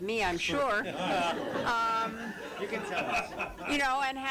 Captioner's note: laughter